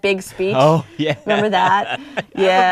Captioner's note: laughter